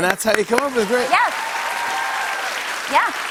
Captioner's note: cheers and applause